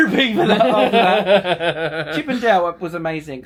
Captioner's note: laughing